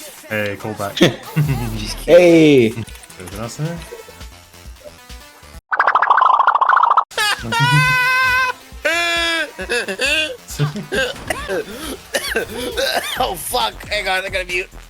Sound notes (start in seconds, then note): 5.7 cartoon Wobbling SFX; 7.2 laughs like a squeeky toy; 10.7 and then starts coughing :c